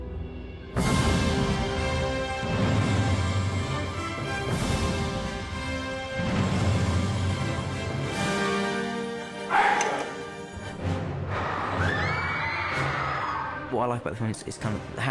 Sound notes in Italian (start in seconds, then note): 11.7 studenti strillano